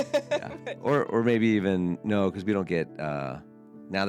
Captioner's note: laughs